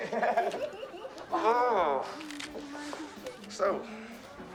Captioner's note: both Laughing